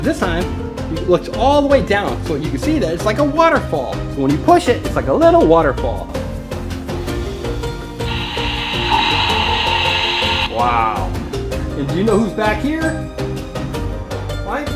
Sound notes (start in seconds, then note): 8.0 rushing water